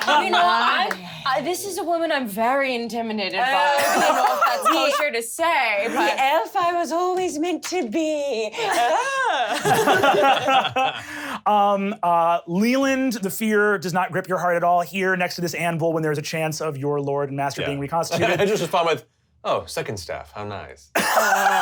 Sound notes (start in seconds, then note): 8.6 laughing; 21.0 laughs